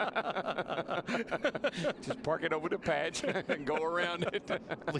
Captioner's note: laughter